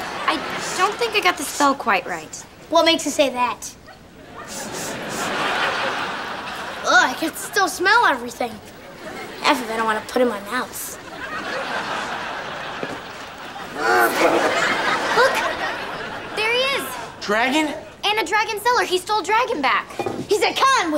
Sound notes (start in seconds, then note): 4.4 sniffing; 13.7 growls